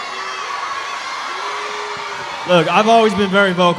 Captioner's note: audience cheering